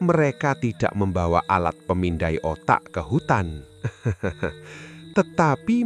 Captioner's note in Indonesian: tertawa